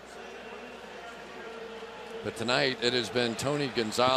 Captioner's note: pa announcement